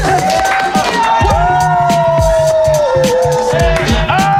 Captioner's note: cheering